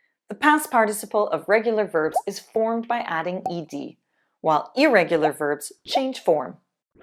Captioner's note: none